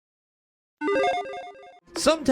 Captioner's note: electronic chiming